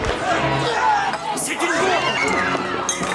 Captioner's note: all screaming